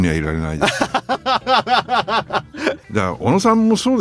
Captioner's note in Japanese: 笑い